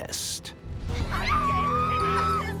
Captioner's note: screams